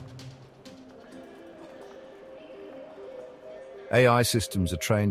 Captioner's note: muffled announcement over PA system